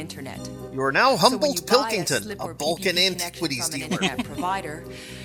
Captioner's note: chuckles